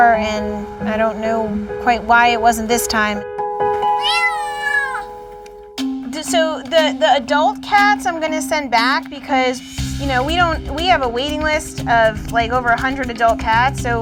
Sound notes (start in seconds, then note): 3.8 kitten mews